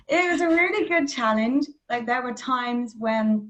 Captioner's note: laughs